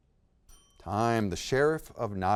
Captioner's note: timer chimes